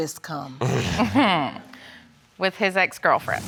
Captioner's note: both snicker